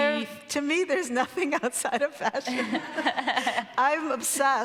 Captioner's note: laughs